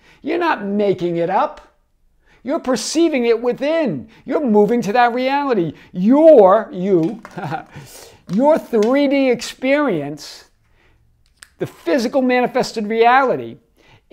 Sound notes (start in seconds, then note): 7.0 chuckles